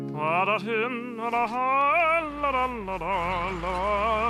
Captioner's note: humming To Himself